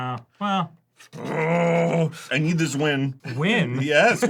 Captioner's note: grumbles